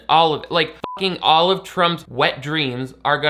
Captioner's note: beep